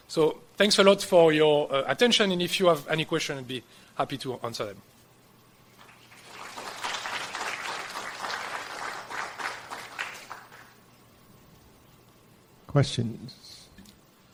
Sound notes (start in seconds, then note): 5.7 applause